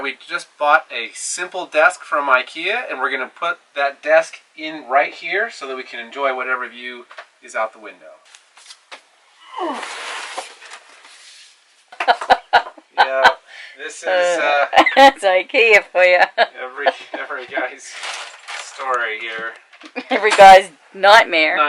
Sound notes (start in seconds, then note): 9.3 groans; 12.0 laughs